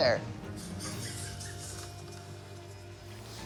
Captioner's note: laughing softly